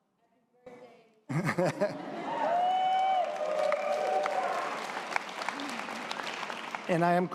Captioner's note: audience applause